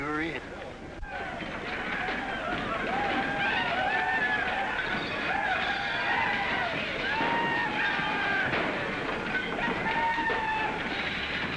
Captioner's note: sounds of chaos & destruction